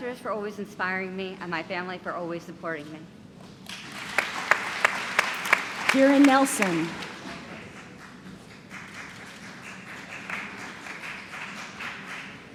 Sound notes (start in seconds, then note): 3.2 applause; 8.1 applause